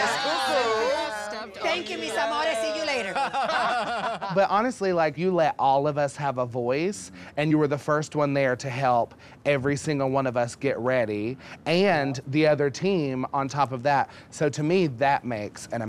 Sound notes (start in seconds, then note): 2.9 laughter